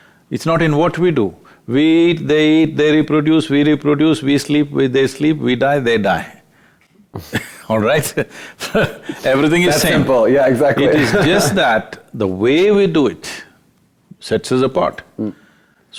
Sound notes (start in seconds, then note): 7.1 both Laugh